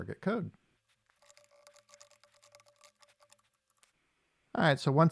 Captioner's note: typing